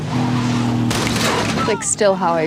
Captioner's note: engine rumbling; metal clanks